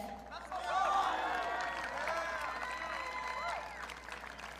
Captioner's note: audience cheering